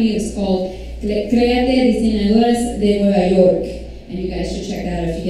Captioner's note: foreign language